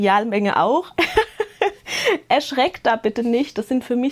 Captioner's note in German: Gelächter